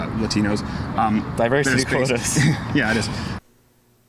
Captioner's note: chuckles